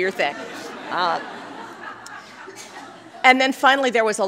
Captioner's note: laughter